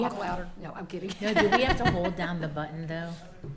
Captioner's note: laughing